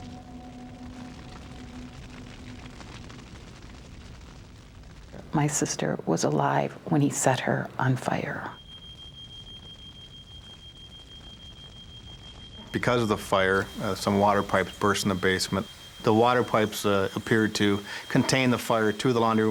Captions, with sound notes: My sister was alive when he set her on fire. [ALARM BEEPING] Because of the fire some water pipes burst in the basement. The water pipes appeared to contain the fire to the laundry